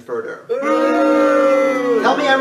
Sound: crowd boos

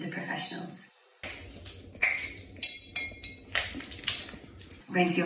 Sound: slightly distorted sound, glass crunching underfoot

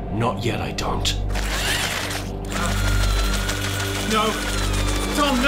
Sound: floppy drilldo whirs

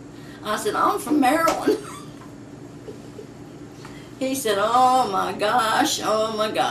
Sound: laughs

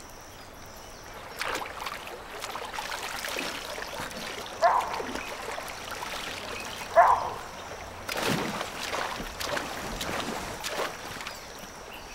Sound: nature sounds; splashing

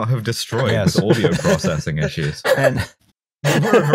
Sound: laughter

